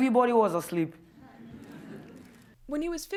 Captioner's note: audience laughs